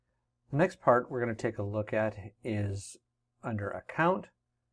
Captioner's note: voiceover